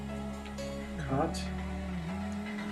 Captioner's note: humming along